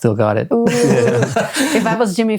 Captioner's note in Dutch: lacht